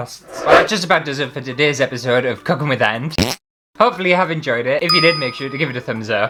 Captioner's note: fart!